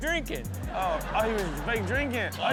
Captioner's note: audience laughs